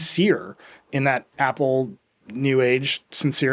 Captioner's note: none